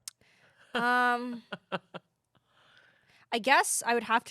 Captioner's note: laughs